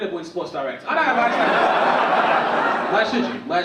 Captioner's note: audience laugh